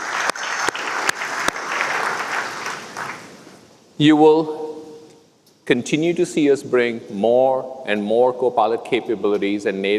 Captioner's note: applause